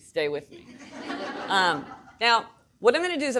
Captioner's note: audience laughing